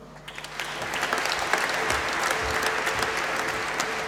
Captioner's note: applause